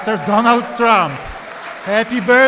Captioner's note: applause